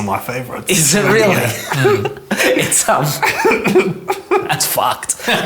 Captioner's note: everyone laughs